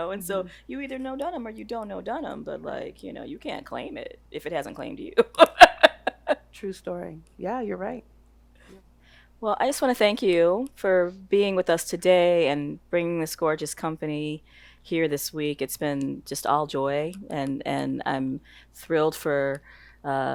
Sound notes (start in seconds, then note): 5.2 laughing